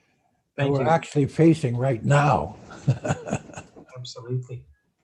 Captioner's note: laughs